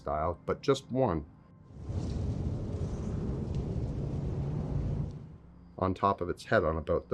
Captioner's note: strong Wind Blows